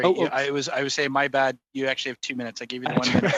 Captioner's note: laughter